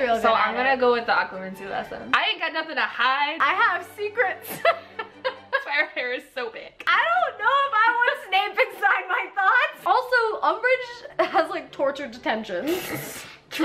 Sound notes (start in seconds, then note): 4.4 laughs